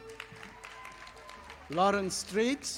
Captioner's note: audience applauding